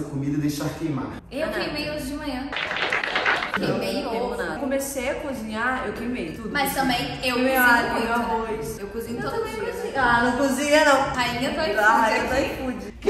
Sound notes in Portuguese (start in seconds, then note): 2.5 aplausos